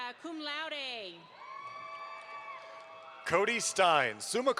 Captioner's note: audience applauds